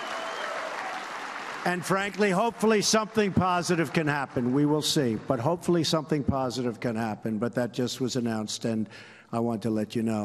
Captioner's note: cheers and applause